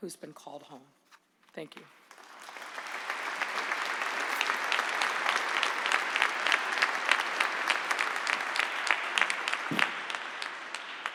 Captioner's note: applause